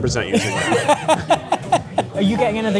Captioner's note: laughs